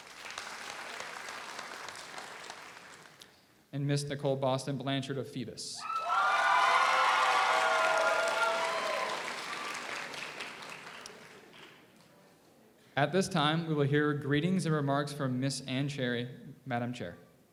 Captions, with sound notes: (audience applauds) And Miss Nicole Boston Blanchard of Phoebus. (audience applauds) (audience cheers) At this time we will hear greetings and remarks from Miss Ann Cherry, Madam Chair.